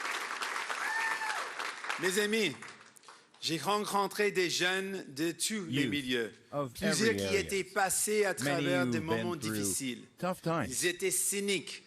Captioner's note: cheering and Applause